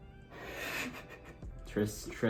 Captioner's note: laughs